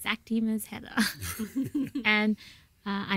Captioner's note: laugh